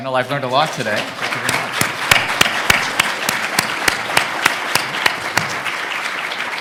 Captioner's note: audience applauding